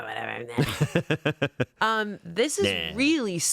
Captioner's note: laughing